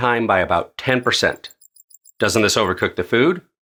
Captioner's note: clock ticking